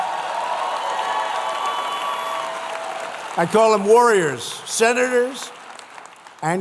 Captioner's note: applause